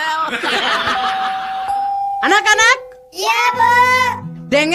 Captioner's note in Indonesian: tertawa